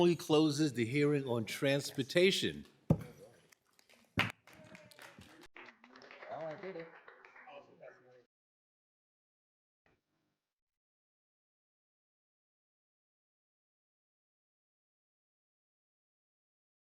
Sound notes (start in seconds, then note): 6.1 applause